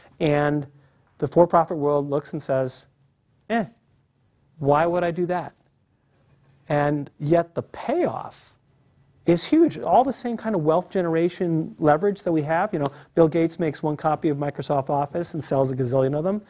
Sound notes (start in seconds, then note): none